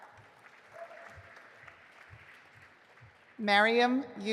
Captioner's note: audience applauding